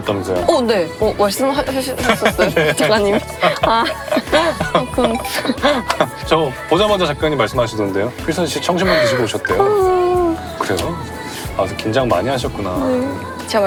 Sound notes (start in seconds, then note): 8.8 crying